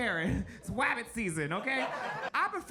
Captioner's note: audience laughs